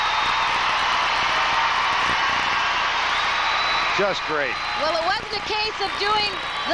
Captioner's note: applause